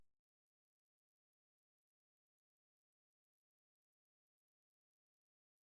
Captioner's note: long intentional silence